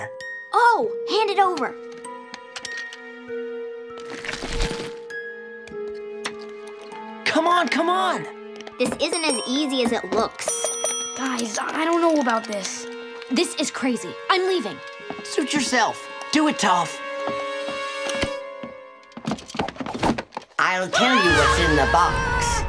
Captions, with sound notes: Oh, hand it over. Come on, come on. This isn't as easy as it looks. [bell ringing] Guys, I don't know about this. This is crazy. I'm leaving. Suit yourself. Do it Toph. I'll tell you what's in the box.